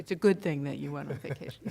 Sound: laughter

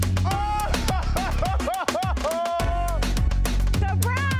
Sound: laughs

